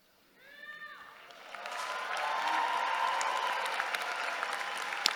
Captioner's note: audience cheering